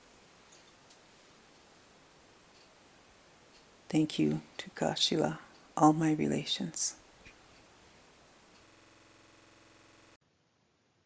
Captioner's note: speaking in Native language